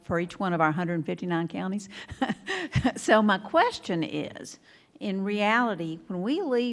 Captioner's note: laughing